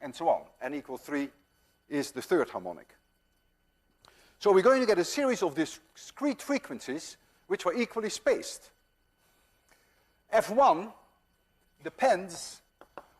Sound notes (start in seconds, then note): none